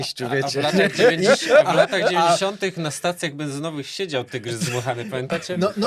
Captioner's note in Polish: śmiech